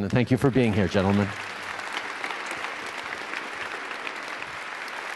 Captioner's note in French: Applaudissements